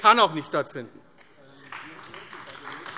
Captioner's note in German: Beifall AfD